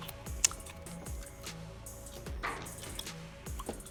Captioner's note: lips smacking